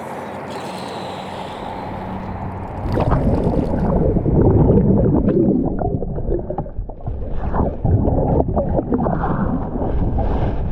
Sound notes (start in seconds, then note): 3.1 suspenseful music; 3.1 water bubbling